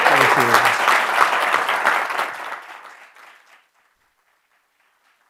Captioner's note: attendees applauding